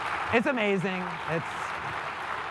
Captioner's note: applause